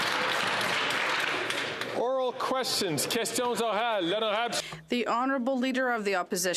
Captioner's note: some Applause